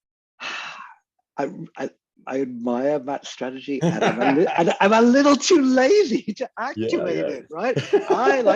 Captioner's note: sighs; laughs